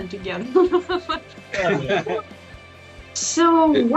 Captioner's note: Смех